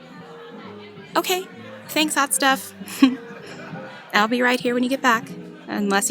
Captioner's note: soft laugh